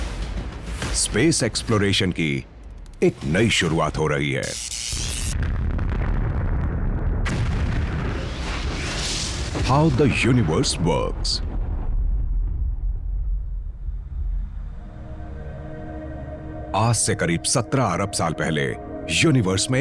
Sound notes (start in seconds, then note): 4.4 electricity buzzing; 7.5 explosion blasts